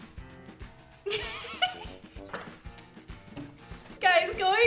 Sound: laughs

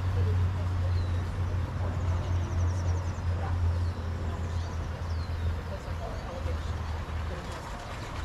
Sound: birds chirping

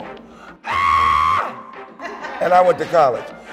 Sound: yells

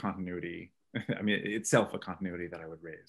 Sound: chuckles

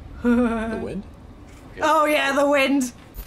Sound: laughing

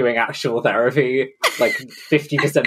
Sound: laughs

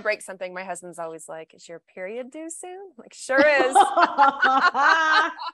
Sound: laughter

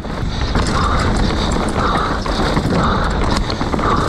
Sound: panting

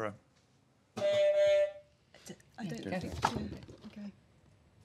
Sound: honk

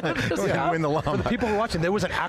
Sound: laughter

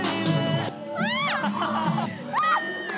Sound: screaming; people suddenly start to scream

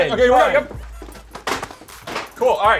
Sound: thuds

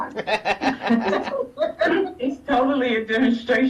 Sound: laughs

